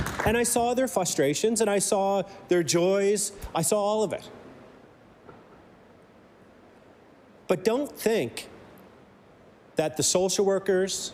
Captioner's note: applause